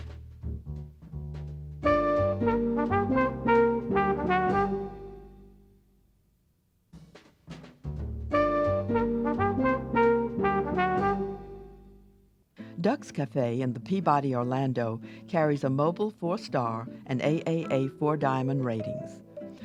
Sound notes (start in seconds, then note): 1.6 light jazz music; 8.0 light jazz music; 12.7 voiceover